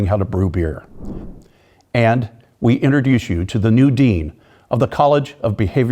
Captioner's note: air whooshing